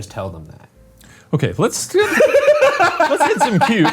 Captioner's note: laughs